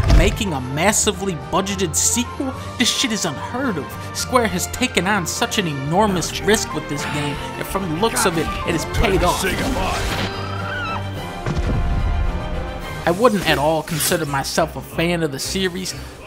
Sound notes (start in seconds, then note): 9.6 in-game audio